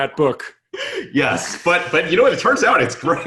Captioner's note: laughs